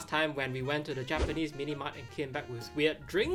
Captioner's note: graphic whooshes